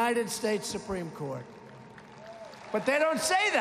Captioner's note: applause